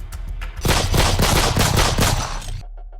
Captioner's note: gunshots